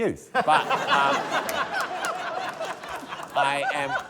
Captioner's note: laughter